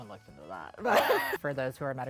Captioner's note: chuckles